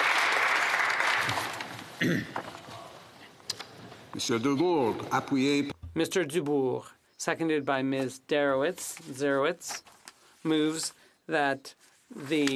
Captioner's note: applause